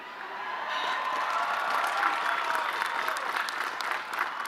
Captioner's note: audience cheering